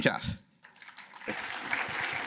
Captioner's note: applause